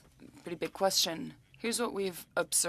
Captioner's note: speaking French